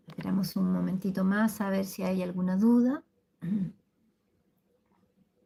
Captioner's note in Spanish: carraspeo